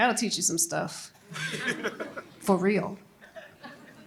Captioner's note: laughter